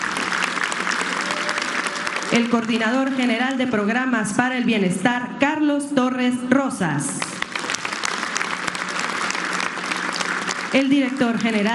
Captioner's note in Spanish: aplausos